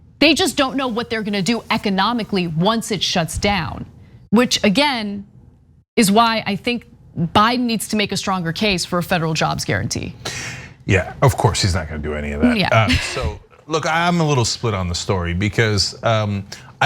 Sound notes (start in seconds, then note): 12.4 laugh